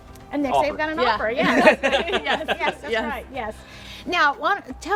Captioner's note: all laugh